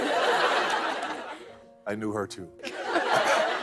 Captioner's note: laughter; laughter